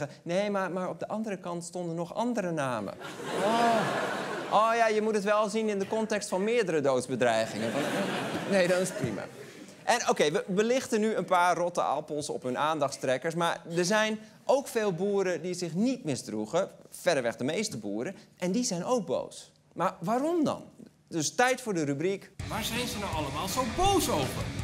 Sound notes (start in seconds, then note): 2.9 laughter; 7.4 laughter